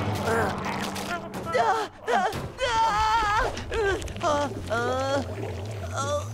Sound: shrieking

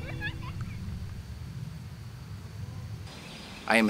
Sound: wind blowing; birds singing

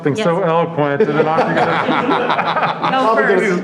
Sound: audience laughing

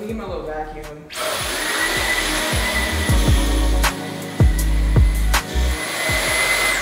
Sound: pleasant music; vacuum motor running

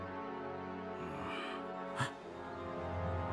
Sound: groans and gasps

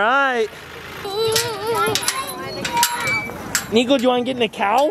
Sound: gate creaks

